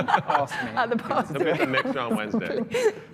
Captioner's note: laughter